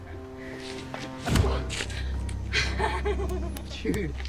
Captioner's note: kick striking; Queen Clown laughing